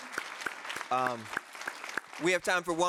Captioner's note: audience applauding